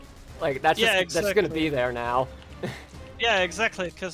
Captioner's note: laugh